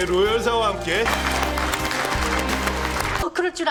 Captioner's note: clap clap clap clap